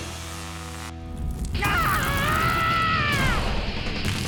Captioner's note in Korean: 비명 소리